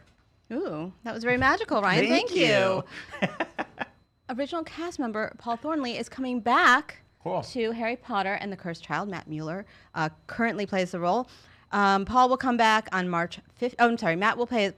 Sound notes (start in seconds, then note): 2.5 laughing